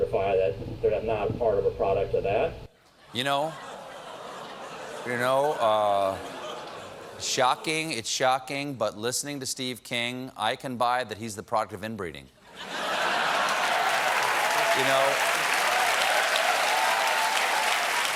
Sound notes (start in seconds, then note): 6.1 audience reacts; 12.9 cheers and applause